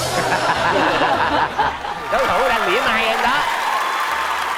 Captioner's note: laughing